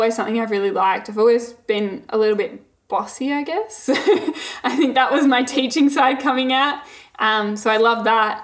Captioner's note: laughing